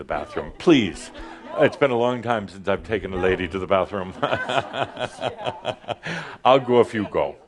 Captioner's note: Adamus chuckles